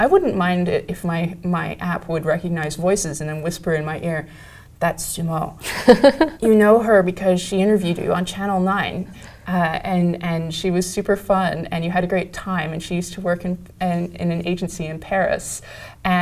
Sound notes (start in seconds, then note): 5.6 laugh